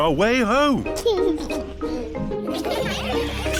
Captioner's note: giggles; laughter